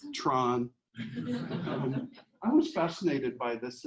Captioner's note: audience laughs